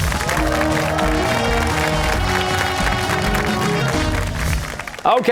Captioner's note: cheers and applause